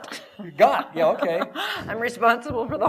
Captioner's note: laughter